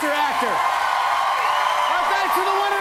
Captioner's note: cheers and applause